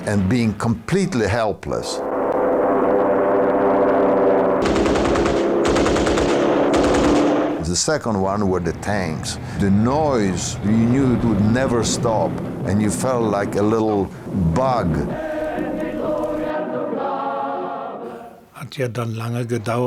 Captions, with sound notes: and being completely helpless. (planes roaring) (guns popping) The second one were the tanks. The noise we knew, we would it never stop and you felt like a little bug. (men singing in foreign language)